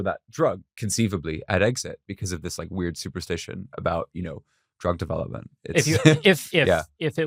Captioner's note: laughs